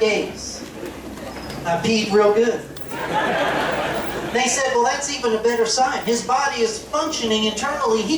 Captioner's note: laughter